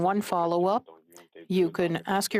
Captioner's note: speaking French